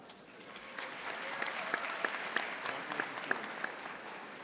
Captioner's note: audience applauding